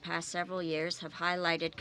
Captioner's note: speaking French